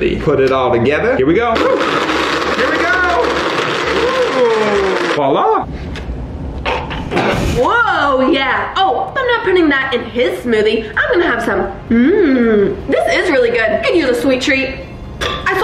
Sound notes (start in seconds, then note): 6.0 gags